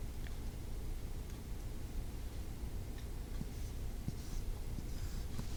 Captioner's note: writing sound